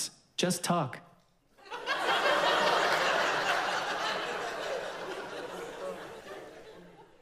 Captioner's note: audience laughs